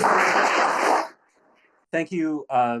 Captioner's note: audience applauding